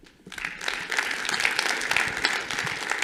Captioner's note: applause